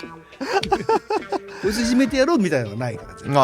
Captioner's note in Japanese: 笑い